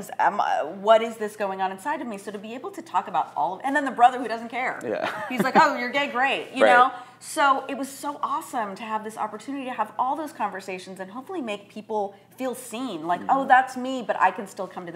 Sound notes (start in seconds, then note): 4.8 chuckling